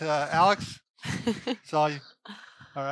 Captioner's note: laughs